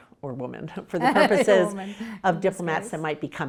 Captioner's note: laughing